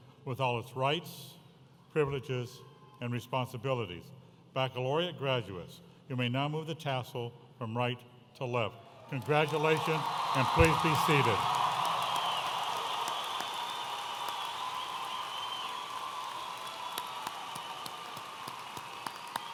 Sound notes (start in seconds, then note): 14.5 audience applauding and cheering